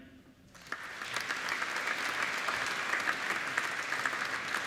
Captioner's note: applauding